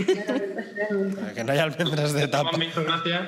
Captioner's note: laughter